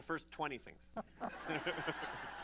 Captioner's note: laughter